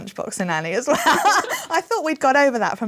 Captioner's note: laughter